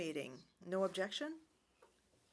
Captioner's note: speaking french